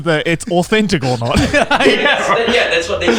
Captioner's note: group and crew laughing